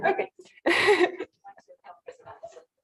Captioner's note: indistinct conversation